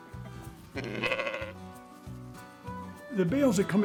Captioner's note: sheep baaing